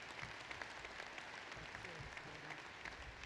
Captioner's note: applause